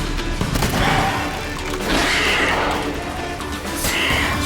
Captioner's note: shriek